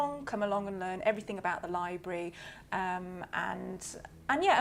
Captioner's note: none